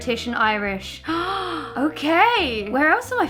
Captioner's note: deep inhale